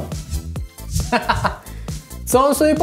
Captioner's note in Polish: śmiech